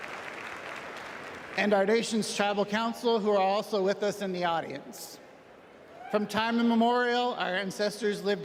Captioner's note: applause